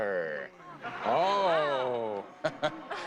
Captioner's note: audience laughing